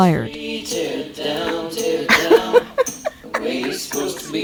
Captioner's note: laughs